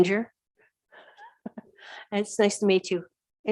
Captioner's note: chuckles